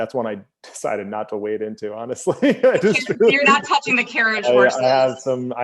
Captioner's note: laughs